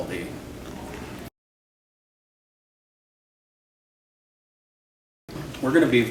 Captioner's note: silence